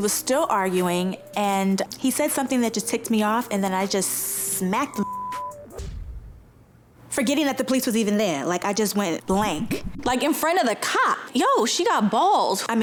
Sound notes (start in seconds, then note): 8.4 beep